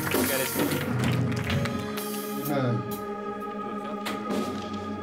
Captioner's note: congregation clapping